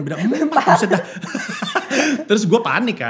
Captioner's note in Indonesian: tertawa